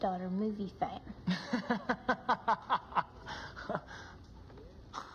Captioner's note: Bob chuckling